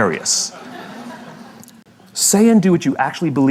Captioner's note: La audiencia se ríe